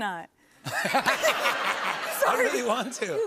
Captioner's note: laughter